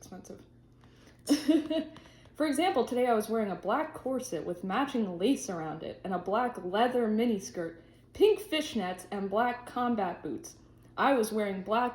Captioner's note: laughs